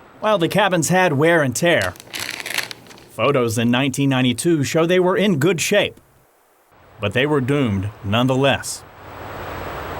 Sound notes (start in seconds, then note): 1.7 pages turning